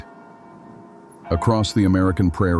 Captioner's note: wind and distant bells